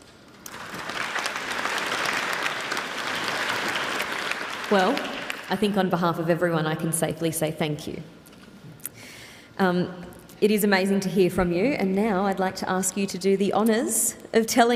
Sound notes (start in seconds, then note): 2.7 applause